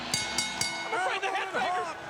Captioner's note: bell dings